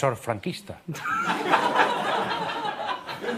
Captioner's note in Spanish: Risas